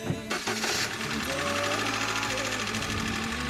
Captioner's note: engine rattle